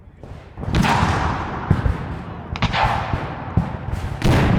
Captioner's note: cannons fire